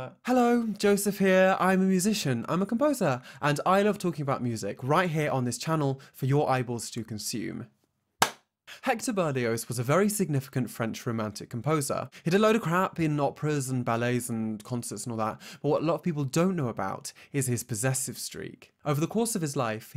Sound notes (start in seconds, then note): 8.2 claps